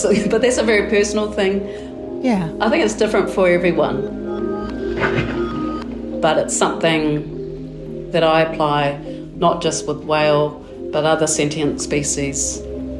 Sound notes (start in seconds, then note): 0.0 chuckling; 4.5 tranquil music; 4.8 whale blowing air